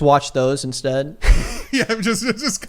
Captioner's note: laughs